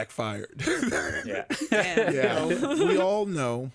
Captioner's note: laughs